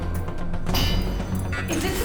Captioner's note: metal clanking